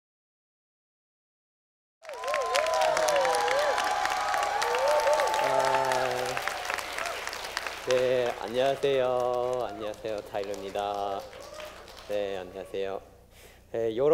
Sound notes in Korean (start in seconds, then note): 2.0 박수와 환호